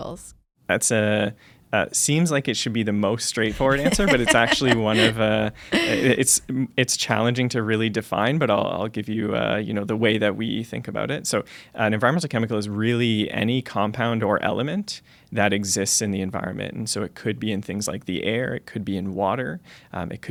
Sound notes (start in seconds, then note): 3.4 laughter